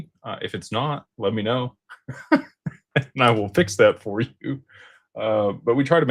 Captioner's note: laughter